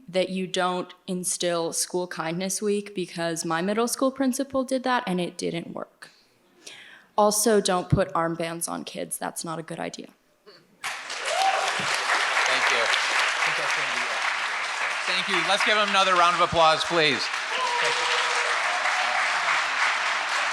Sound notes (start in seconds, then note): 11.1 audience applauds; 17.4 audience applauds